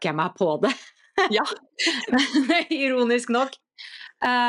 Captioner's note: laughter